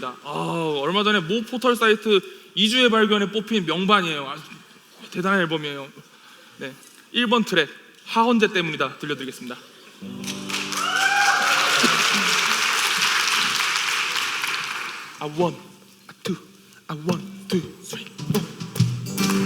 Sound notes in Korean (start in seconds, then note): 10.1 박수 및 환호; 19.1 간주 및 박수